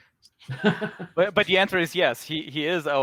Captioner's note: moderator laughs